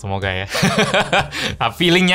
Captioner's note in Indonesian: tertawa